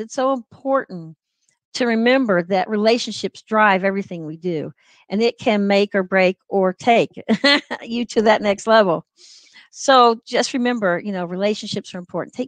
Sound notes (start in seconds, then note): 7.3 laughter